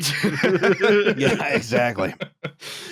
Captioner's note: laughter